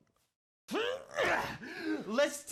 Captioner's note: grunts